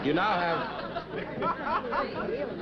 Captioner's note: chuckling